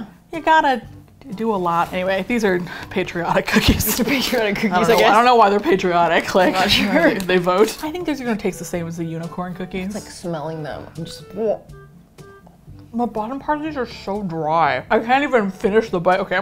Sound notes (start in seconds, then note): 3.5 laughs; 11.3 gags